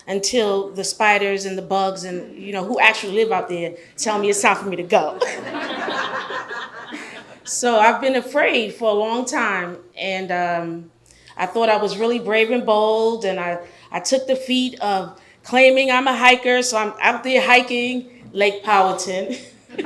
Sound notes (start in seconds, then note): 5.2 audience laughs